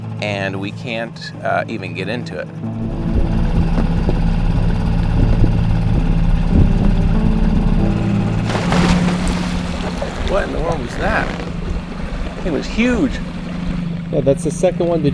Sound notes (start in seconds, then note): 6.8 soft intense music; 7.7 water splashes